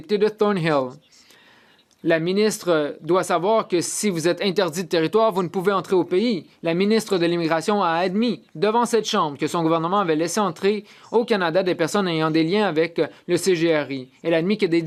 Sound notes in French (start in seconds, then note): 5.0 voix de l'interprète